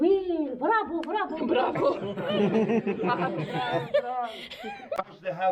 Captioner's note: chuckles